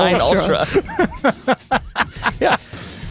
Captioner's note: laughs